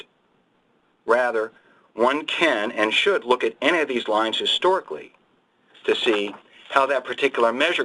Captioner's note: pages turning